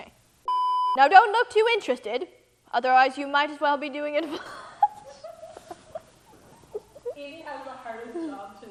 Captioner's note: laughs